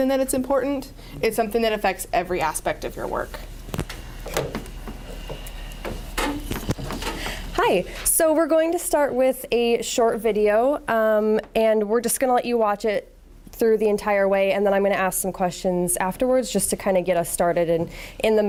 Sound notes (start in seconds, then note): none